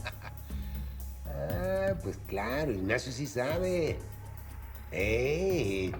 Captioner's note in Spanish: riendo